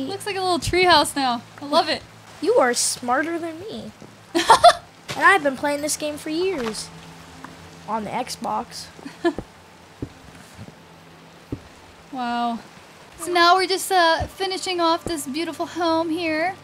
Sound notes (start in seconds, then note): 4.3 laughing